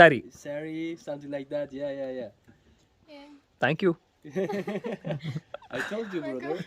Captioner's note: laughs